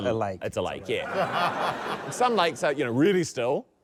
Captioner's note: laughter